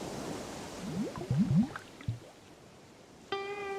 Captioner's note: waves crashing